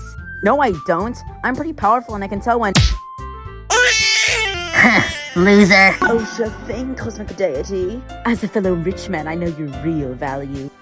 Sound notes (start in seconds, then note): 2.7 Skull slaps Facey; 3.7 Facey cries